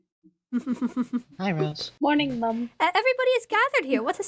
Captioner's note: ROSE chuckles